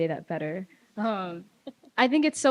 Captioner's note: laughs